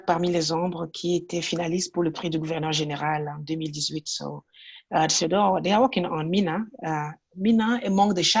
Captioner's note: french